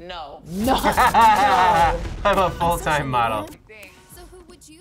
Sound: laughs

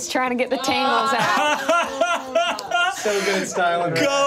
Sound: all laughing

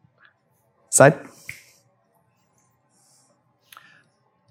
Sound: snaps fingers

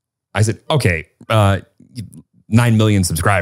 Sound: none

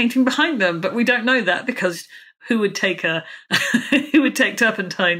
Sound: laughs

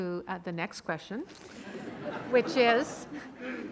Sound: audience laughing

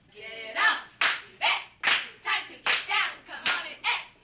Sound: group cheers

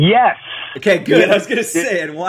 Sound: laughs

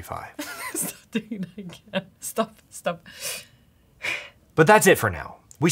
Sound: laughs

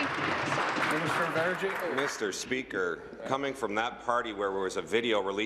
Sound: applause

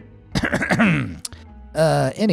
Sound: narrator coughing

